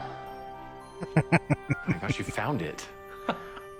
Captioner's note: chuckling